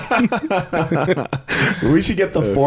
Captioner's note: men laughing